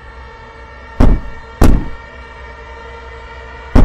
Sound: knock, knock

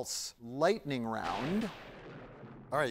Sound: thunder booms

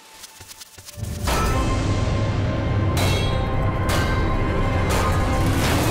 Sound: banging

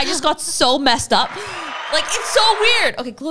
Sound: audience cheering

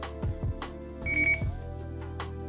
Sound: beep

